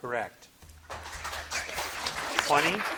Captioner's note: audience clapping